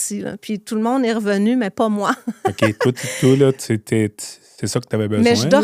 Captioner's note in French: rires